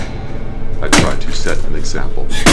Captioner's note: wrench thudding